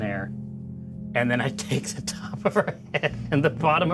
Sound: laughs

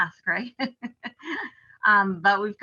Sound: chuckles

